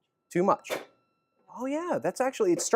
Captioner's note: another bang